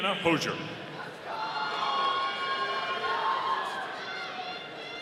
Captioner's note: audience cheering